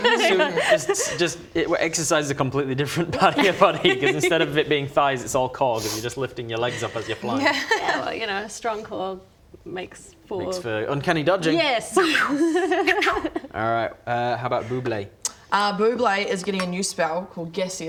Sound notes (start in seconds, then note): 12.2 relieved laugh